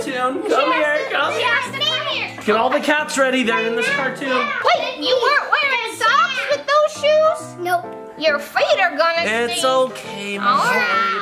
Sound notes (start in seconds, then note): 2.1 kids fussing